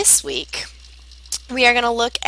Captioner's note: Arabic